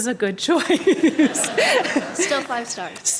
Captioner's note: laughter